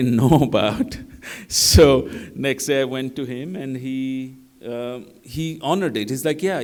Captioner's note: laughter